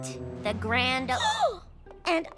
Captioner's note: gasps